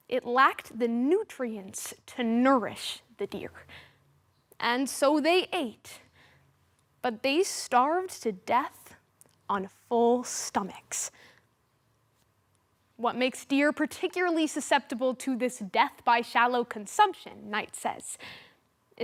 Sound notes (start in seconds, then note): 6.0 soft breathing; 11.4 silence